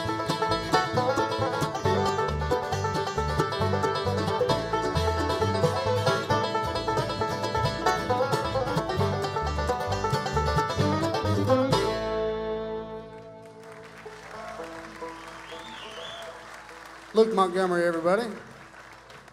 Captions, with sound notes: (audience cheers and applauds) - Luke Montgomery, everybody.